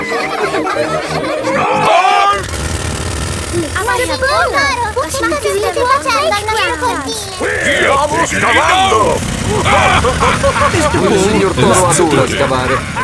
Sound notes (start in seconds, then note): 0.1 children laughing; 9.7 laughing